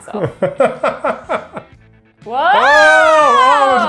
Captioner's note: laughs